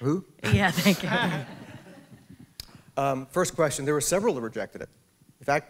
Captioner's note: laughter